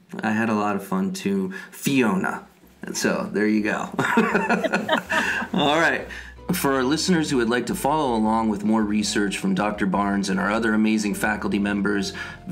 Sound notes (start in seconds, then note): 4.0 both laugh